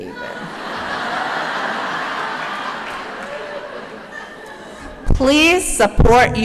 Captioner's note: laughter